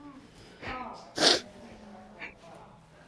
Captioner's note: sniffling